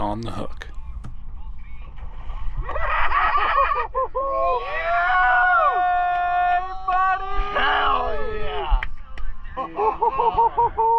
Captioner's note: laughing; cheering